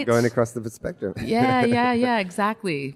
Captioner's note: laughs